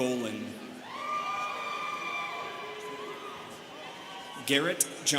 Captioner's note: students cheering